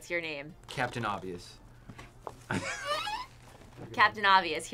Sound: laughs

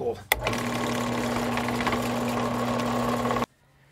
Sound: drill noise

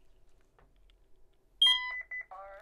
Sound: keypad beeps

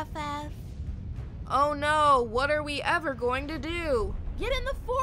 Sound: sarcastic

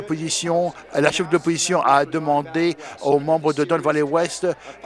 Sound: none

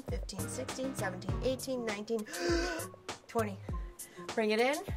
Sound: deep breath

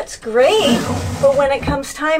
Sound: door sliding

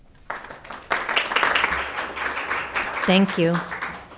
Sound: attendees applauding

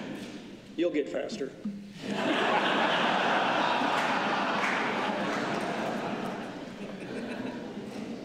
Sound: laughter

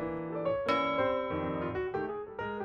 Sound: ding

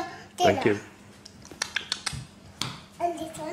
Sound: makes eating noises

